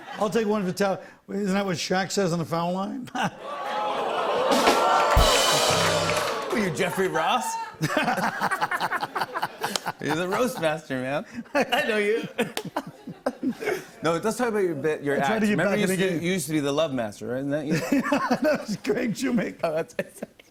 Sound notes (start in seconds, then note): 3.4 audience ohhs; 7.7 laughter; 18.2 laughs